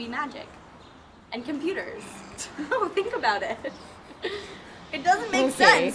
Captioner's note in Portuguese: risada